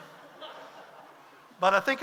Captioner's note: audience laughs